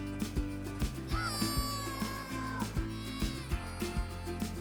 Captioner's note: boy exclaims happily